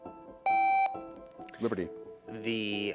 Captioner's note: contestant beeping